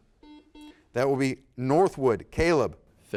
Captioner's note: buzzer beeps